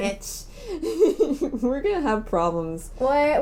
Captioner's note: laughing